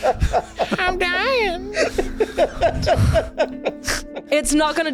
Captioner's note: ironically is dyin' of laughter